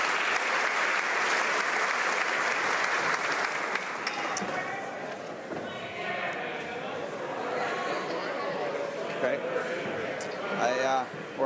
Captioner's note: applause